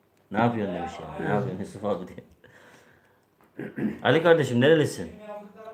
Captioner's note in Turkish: boğazını temizler